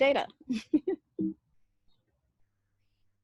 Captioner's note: laughs